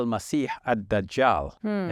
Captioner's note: speaking native language